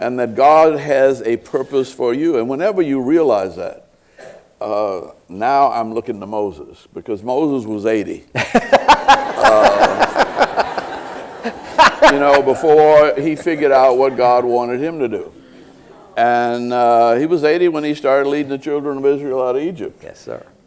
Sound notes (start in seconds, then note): 8.3 laughter